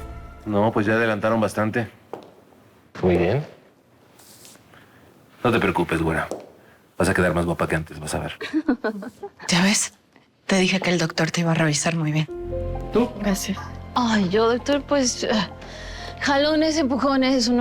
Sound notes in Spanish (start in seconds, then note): 8.4 Risas